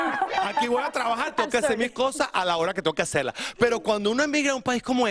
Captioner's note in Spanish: habla en ingés